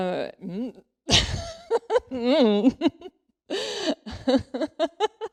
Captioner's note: laughs